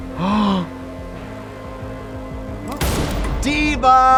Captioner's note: Trixie gasps; gunshot fires